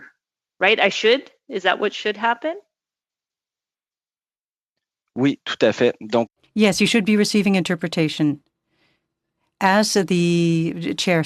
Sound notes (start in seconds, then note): 9.0 speaking French